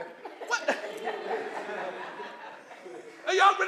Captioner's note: laughter